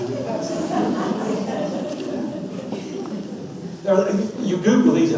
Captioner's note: audience laughs